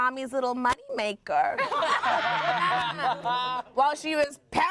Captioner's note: everyone laughs